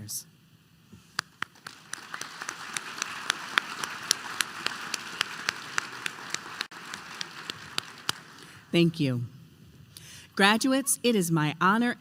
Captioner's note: applause